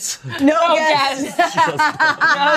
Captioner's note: laughs